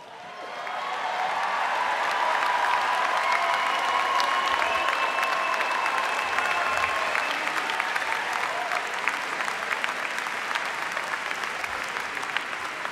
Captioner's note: applause